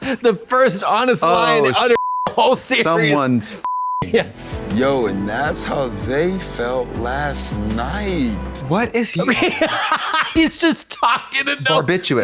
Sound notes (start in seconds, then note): 1.8 beep